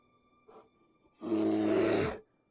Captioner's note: bear growling